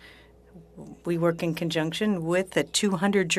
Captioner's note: speaking French